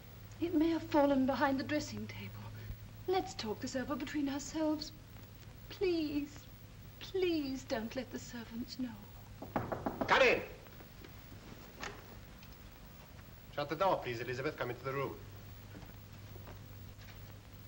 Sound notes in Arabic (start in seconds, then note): 9.4 طرق على الباب